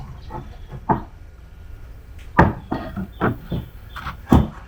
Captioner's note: stone slab scraping; bird twittering